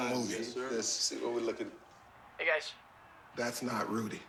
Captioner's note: chanting